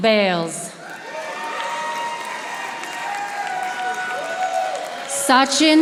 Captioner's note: audience applauding